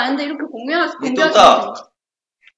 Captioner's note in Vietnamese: Hỏi bằng tiếng Hoa